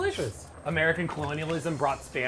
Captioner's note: food boiling